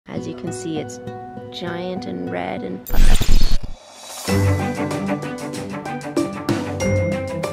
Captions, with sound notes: - As you can see, it's giant and red and- (static crackling) (bright music)